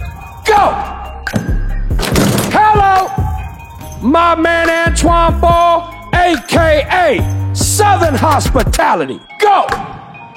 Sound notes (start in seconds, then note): 1.3 ball bouncing; 2.0 dunk sound